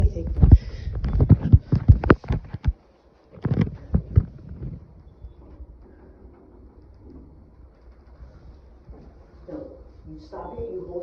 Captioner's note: rustling inside hotel elevator